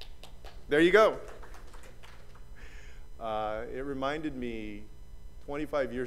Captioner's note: applause